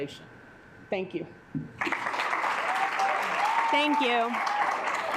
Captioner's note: assembly clapping